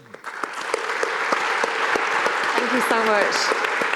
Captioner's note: audience applauding